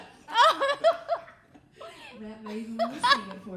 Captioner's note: laughing